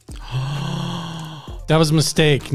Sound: gasps

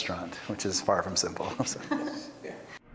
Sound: laughter

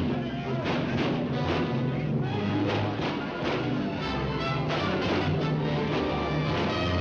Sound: dramatic music; people yelling; dramatic music; guns firing

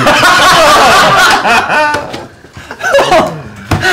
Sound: laughter

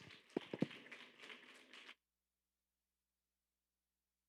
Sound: audience applauding

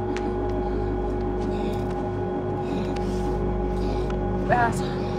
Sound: labored breathing

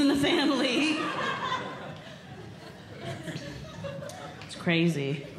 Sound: audience Laughing

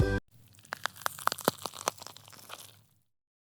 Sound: the sound of wood burning in the kitchen

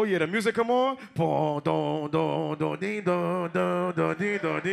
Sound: mimics music

